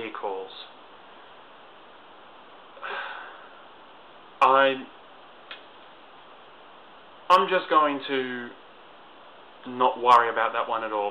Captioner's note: sighs